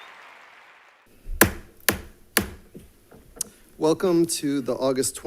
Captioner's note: gavel bangs